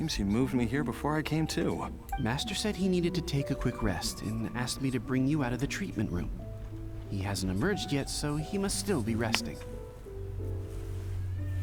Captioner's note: squealing